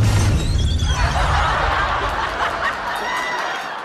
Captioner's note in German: Gelächter